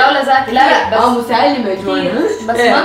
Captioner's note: sarcastically